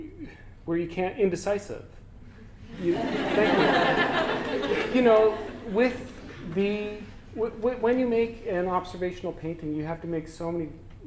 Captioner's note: audience: Laughter